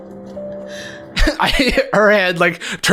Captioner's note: Jarvis laughing